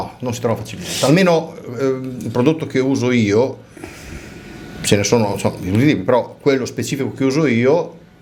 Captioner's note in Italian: sbuffare